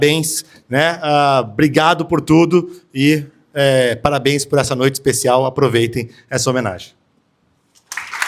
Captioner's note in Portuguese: aplausos